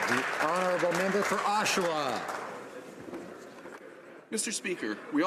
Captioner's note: some Applause